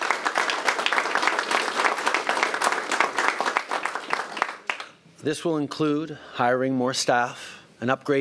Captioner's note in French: Applaudissements